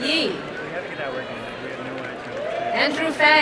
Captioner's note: crowd cheering and applauding